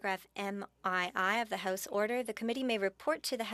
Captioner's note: speaking French